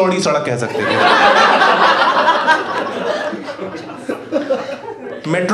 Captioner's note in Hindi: हँसना